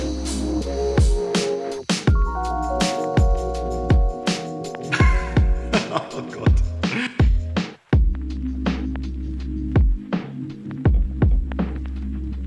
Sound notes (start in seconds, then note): 4.9 laughing